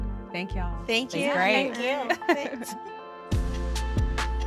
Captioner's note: laughs; cheery, carefree music